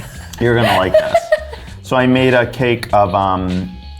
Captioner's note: laughs